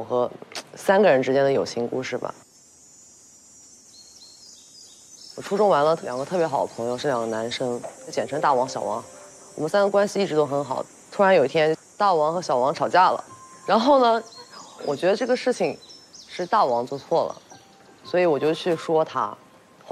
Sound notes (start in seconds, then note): 6.1 sample 1: The sound of birds chirping early in the morning